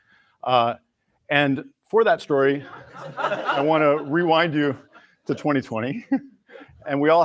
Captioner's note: laughter